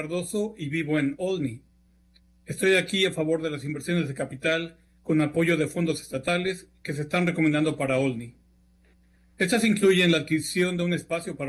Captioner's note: speaking spanish